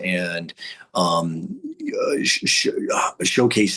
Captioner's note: stammering